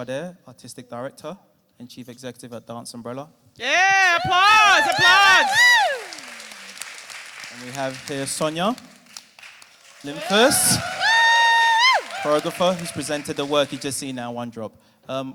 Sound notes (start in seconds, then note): 3.7 cheering and applause from the audience; 9.9 cheering and applause from audience